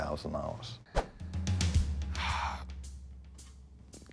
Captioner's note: sighs